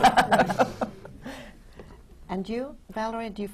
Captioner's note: laughter